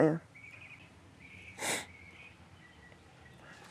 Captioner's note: sniffs